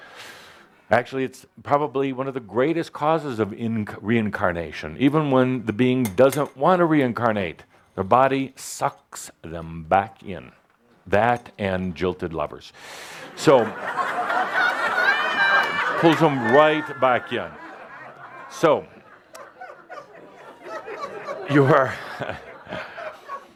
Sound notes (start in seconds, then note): 13.2 laughter